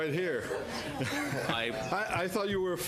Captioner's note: laughter